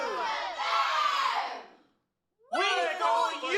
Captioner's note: silence